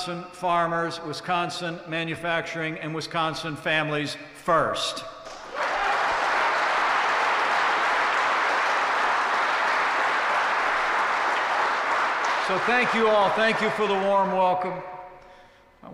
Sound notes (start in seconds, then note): 5.2 applause